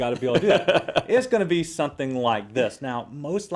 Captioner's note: laugh